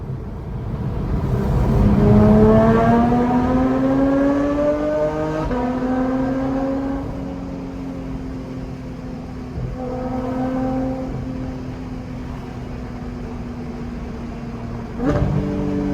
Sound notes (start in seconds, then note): 3.4 happy car noises